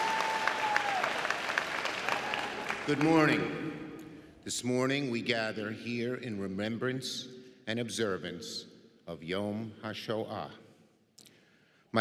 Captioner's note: applause